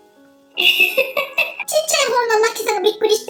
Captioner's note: laughs